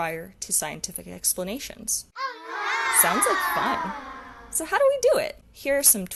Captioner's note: yay sound effect